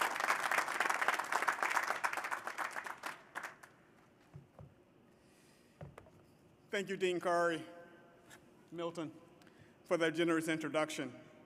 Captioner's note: applause